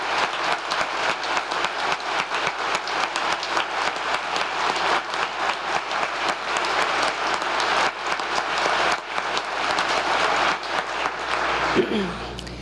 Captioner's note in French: applause